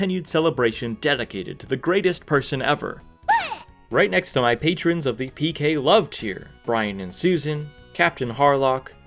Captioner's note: scoff